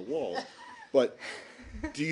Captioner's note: laughter